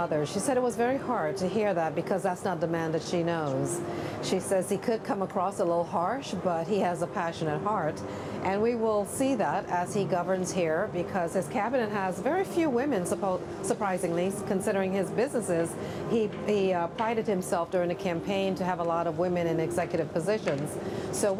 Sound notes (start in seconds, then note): none